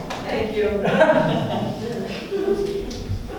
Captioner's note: laughs